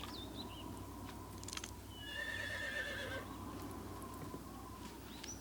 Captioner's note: horse neighs